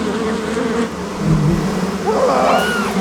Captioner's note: cris fort